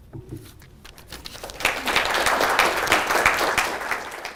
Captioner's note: applause